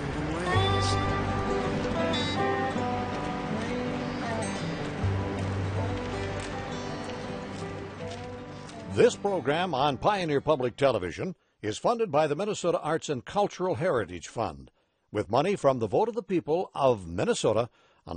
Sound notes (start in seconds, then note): 9.1 voiceover